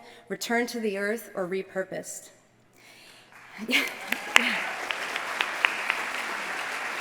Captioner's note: applause